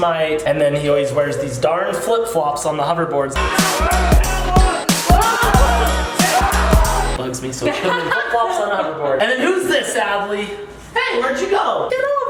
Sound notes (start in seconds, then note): 3.3 yelling; 7.6 laughs